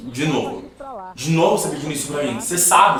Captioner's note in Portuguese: Televisão ao fundo; Televisão ao fundo continua